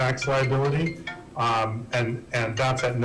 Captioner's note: phone rings